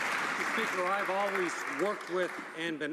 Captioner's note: some Applause